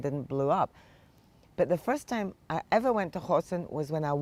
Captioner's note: hebrew